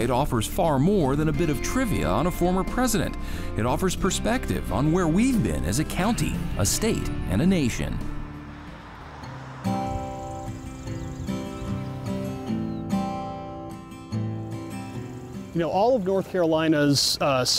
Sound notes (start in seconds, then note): 9.3 birds chirping; 9.3 bright guitar music